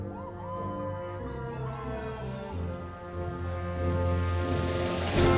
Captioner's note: audience continues cheering